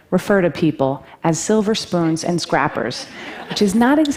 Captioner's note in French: Rires